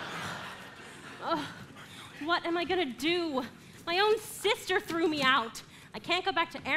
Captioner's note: audience laughing; groans